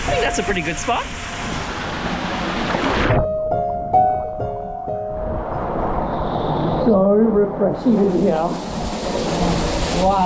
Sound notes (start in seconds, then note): 2.0 gentle piano music; 2.6 water bubbling